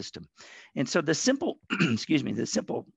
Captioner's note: clears throat